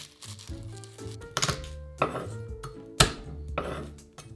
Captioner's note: garlic paper rustling; knife smashing